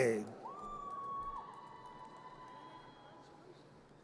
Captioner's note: audience cheers